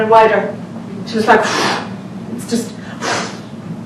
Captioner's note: blowing air